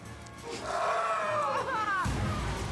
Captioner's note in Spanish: sollozos